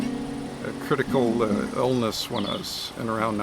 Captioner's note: birds singing